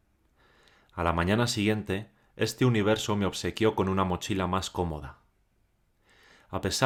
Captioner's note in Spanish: Voz en off